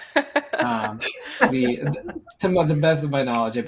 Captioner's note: laughter